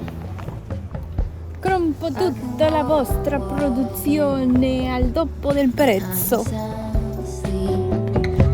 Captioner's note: Italian